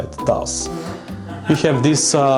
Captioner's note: fart and laughter in the distance